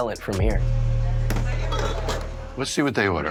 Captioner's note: machinery whirring